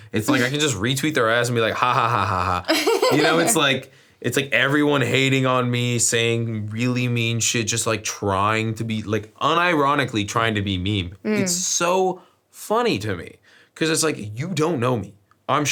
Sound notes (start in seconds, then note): 2.0 laughs